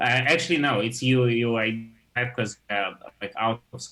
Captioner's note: audio distorts